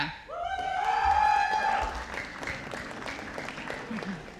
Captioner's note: audience applauding